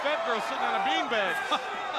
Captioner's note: crowd cheering